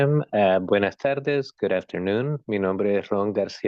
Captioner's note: spanish; speaking spanish